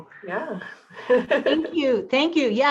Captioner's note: laughter